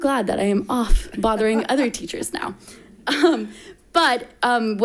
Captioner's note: chuckles